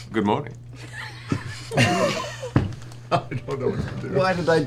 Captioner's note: laughter